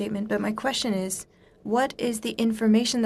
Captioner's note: speaking in french